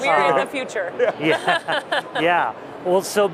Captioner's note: laughter